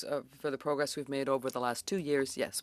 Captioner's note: speaking French